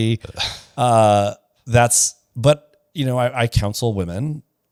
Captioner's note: laughs